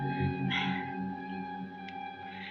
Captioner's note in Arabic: لهث